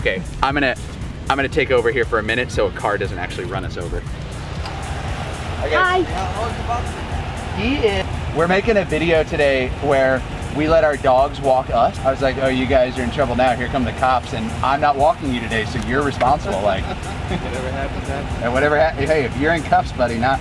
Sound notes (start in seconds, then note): 16.3 laughs